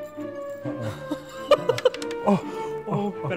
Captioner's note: laughs in frustration